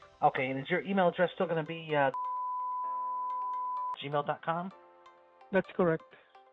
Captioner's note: beeps